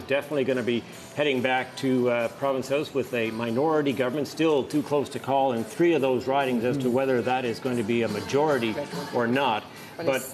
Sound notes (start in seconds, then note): none